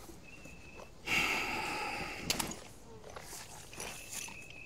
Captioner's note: Bill sighs